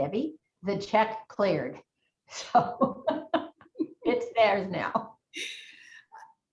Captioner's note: laughs